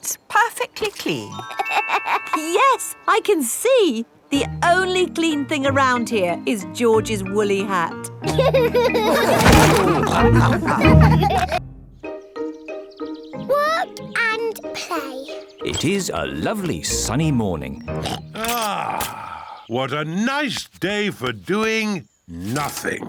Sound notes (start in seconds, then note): 2.0 laughs; 8.3 all laughing; 17.8 oinks